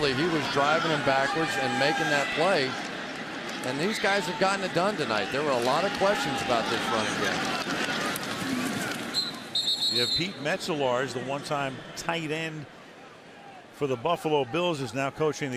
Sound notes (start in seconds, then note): 9.1 whistle